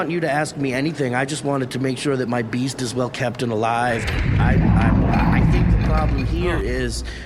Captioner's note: the beast roars